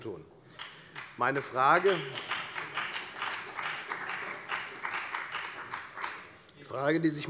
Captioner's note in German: Heiterkeit und Beifall bei der FDP und bei Abgeordneten der SPD